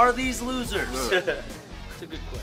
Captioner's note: laughter